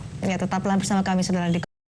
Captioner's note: non-english speech